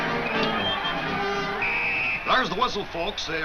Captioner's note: whistle blows